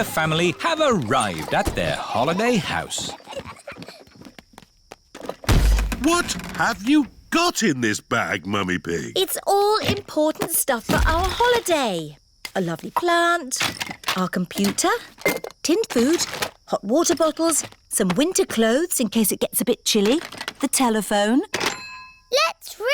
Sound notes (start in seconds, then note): 3.8 peppa and george giggling; 5.4 thud